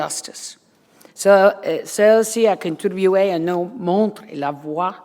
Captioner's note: foreign language